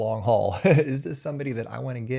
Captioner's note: chuckles